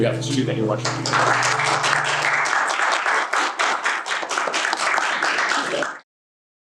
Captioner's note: applause